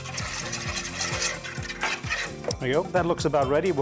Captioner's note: whisking